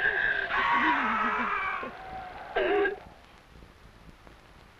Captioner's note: Yaqui man screaming